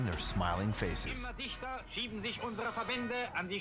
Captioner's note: German dialogue